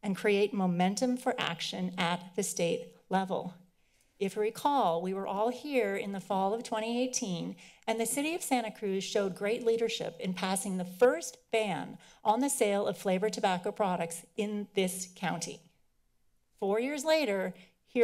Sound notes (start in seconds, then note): none